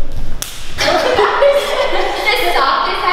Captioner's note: laughing